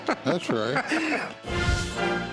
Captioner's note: laughter